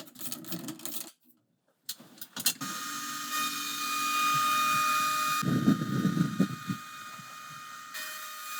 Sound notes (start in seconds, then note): 2.6 CNC machine whining